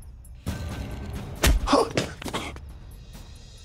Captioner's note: Kohli gasps